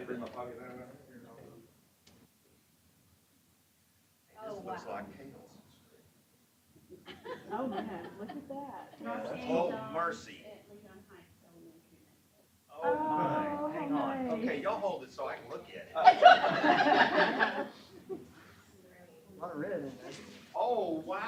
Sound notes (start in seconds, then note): 18.7 laughter